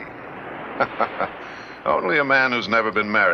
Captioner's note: Jerry laughs